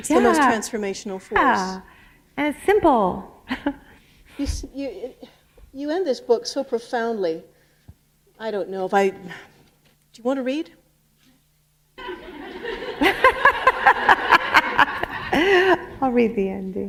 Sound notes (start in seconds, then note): 12.0 laughter